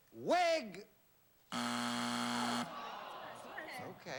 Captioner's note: buzzer